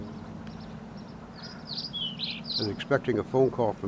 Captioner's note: birds chirping